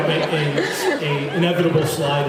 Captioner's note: laughs